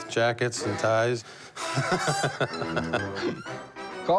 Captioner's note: laughs